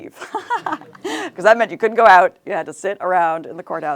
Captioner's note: laughs